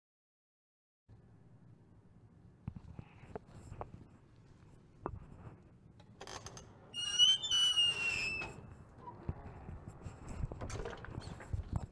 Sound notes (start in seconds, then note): 0.0 sound of squeaking door